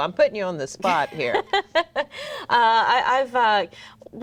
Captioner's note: laughs